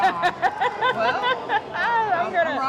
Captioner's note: laughs